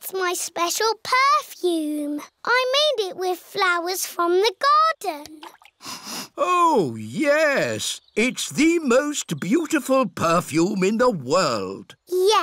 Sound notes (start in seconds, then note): 5.8 sniffs